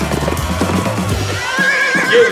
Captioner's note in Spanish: relincha